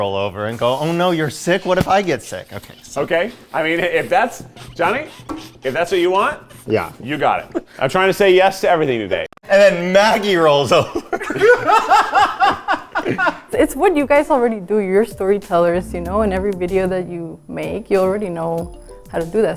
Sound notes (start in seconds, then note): 6.0 laughing; 10.9 all laughing